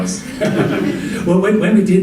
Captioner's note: audience laughing